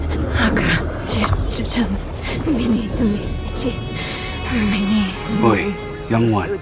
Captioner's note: chanting frantically